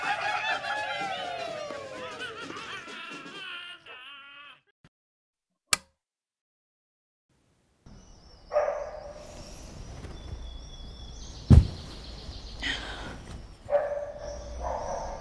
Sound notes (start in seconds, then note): 0.1 game sounds - laughing; 8.5 dogs barking